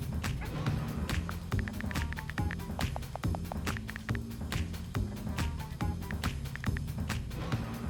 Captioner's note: upbeat music; laughing; typing sounds